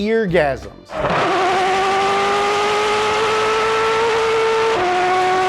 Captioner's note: F40 LM engine revving